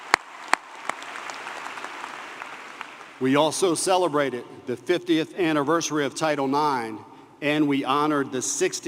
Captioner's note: applause